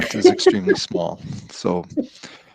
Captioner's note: laughing